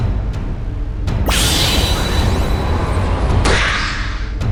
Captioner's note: whirlwind